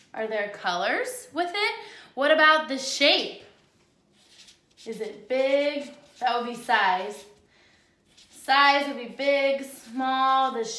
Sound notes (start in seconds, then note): none